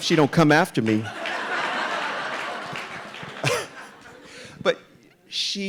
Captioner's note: audience laughing